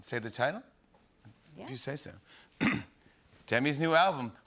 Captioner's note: clears throat